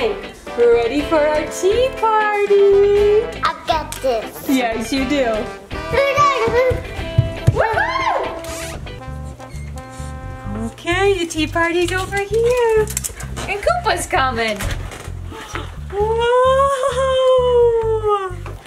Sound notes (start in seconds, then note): 5.4 chatters; 9.4 door squeaking